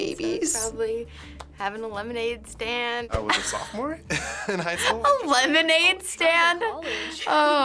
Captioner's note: laughs